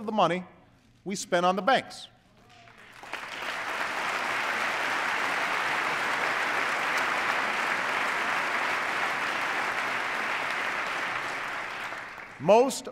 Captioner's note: applause